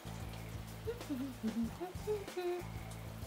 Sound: humming

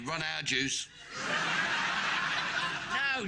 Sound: audience laughing

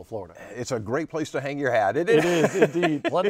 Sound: laughing

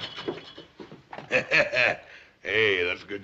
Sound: chuckling

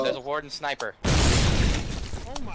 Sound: boom

